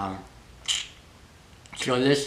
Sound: slurp

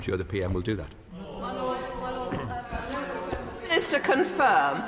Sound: crowd chatters

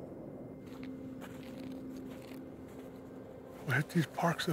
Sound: footsteps rustling in dry grass

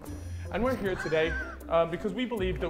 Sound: Vikram chuckling

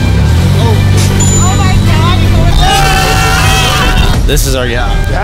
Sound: crazy excited screaming

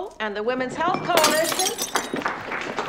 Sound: glass shatters

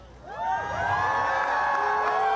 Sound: crowd cheering

